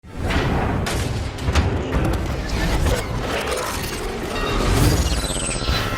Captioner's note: lock mechanisms clicking over futuristic sounds